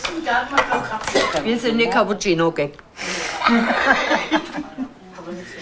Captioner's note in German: Lachen